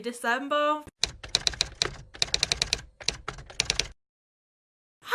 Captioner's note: typewriter Typing